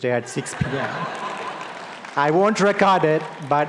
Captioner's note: audience laughing